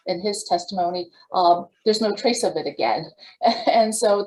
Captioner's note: laughs